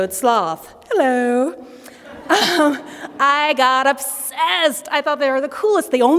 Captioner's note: laughter